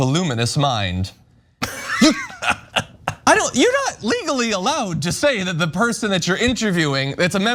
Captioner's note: laugh